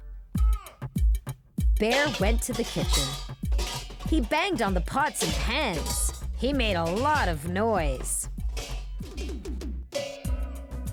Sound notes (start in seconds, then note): 0.1 drum beat playing; 3.4 pots clanking